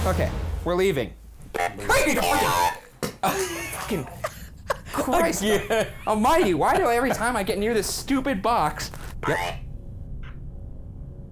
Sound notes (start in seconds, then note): 1.9 electronic beeping; 3.6 laughing